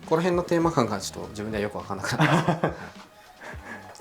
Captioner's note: laughs